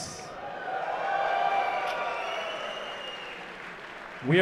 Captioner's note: cheering